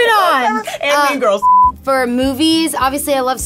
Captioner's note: beep